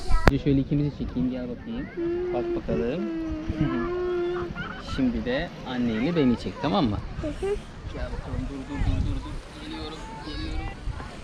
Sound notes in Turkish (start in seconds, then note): 7.1 hı hı